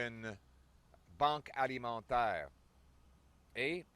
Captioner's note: French